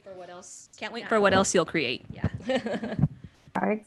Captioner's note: laughter